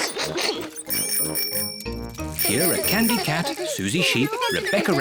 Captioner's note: giggles; bicycle bells tinkle